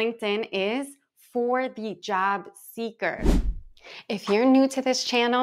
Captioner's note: page swishing